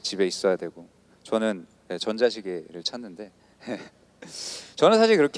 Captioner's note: laughs